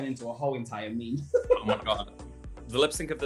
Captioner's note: laughter